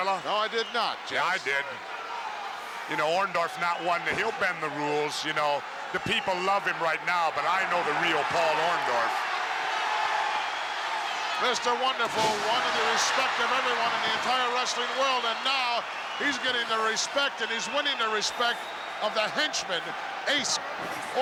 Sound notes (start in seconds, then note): 9.6 crowd cheers